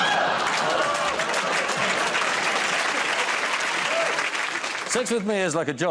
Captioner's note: laughter